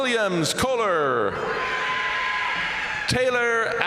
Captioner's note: crowd cheering; crowd applauding